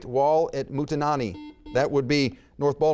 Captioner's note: buzzer beeps